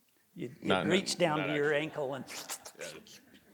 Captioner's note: slurps